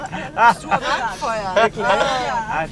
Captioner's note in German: Lachen